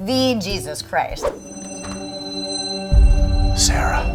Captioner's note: heavenly chiming